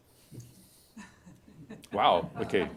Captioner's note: laughter